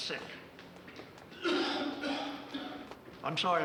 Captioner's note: coughing